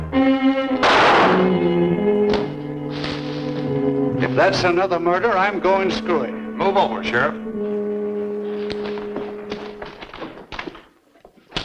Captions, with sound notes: (gun firing) - If that's another murder, I'm going screwy. - Move over, Sheriff.